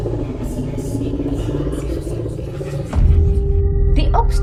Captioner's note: ghostly whispering